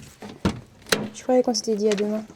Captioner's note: door opens